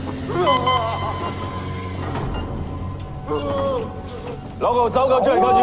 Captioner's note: beeping